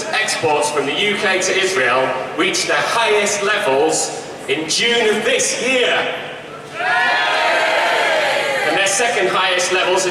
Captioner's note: shouts of shame